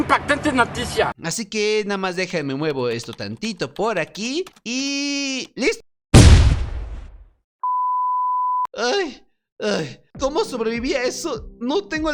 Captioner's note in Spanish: explota